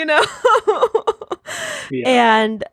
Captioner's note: laughing